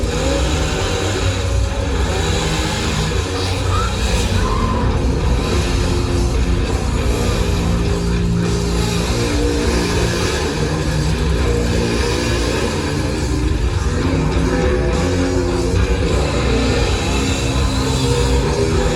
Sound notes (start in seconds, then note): 0.1 chainsaw rev; 3.4 yells